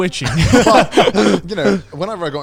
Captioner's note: all laughing